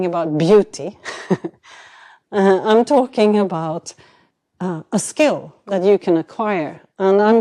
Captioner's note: chuckles